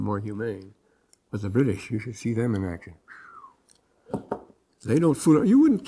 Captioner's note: whistles